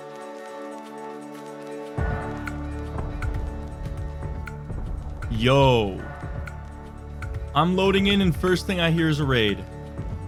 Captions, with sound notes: *distant booming* Yo! I'm loading in and first thing I hear is a raid.